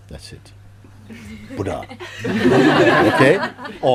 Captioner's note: laughter